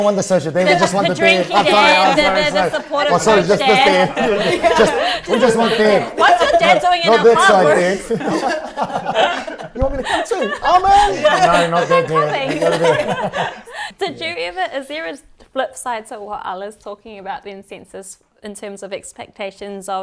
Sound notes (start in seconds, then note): 8.8 laughs